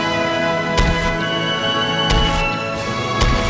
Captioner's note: revolver fired X2; revolver fired X3